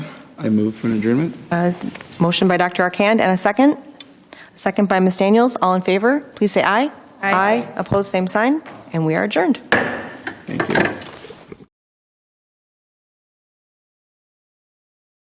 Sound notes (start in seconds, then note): 9.7 gavel clacking